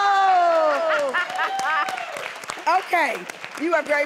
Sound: laughter and applause

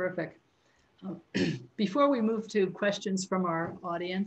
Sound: clears throat

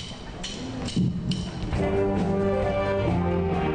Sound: drum sticks tapping

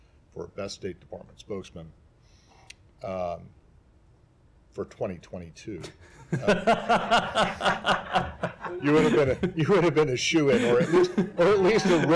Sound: laughter

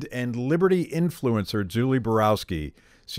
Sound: none

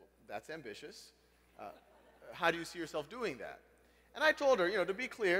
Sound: laugh

